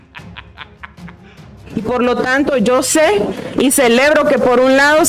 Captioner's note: laughs